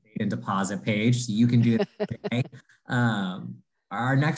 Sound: laughs

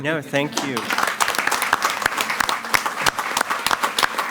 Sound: all applaud

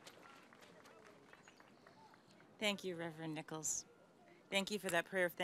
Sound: applause

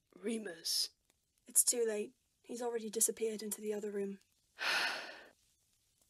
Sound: James sighs

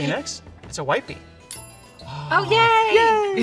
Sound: dinging

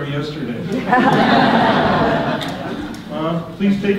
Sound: audience laughter

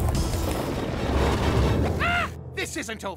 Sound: shrieks

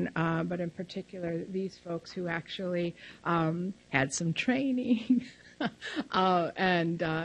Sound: laughs loudly

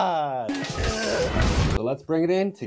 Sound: grunts in Japanese

